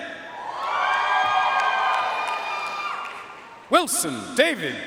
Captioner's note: audience cheering and applauding